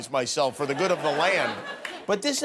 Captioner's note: laughter